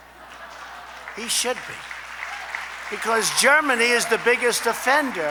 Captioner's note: laughter and applause